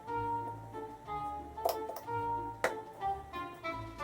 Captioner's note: scraping; tap tap tap